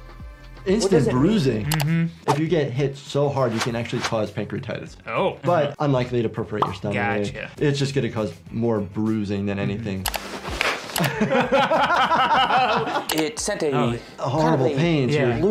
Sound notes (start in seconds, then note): 10.9 both laughing